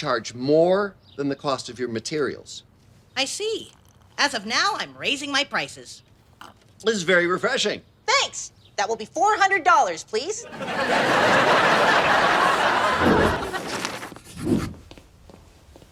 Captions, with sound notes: more than the cost of your materials. - I see. As of now, I'm raising my prices. - This is very refreshing. - Thanks! That will be 400 dollars, please. (audience laughs)